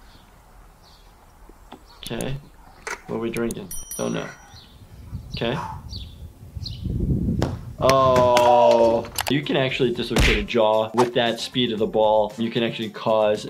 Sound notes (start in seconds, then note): 7.3 ball thumps; 8.3 screaming; 10.1 whack